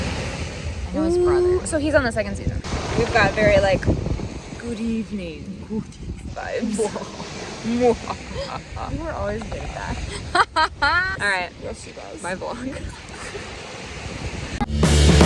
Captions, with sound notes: I know his brother So he's on the second season? We've got very like (Dracula voice) "Good evening" vibes Good evening (evil laughter) You were always good at that Alright Bye vlog